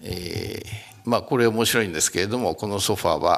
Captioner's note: speaking japanese